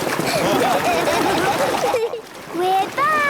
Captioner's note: laughing